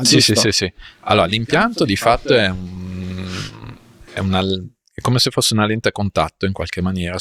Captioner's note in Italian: sbuffare